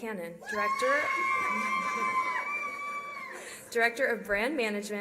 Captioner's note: cheering